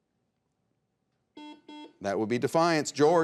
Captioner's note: buzzer beeps